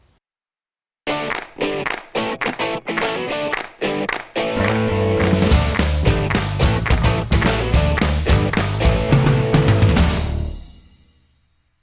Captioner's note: claps